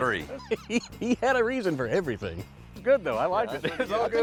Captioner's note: laughing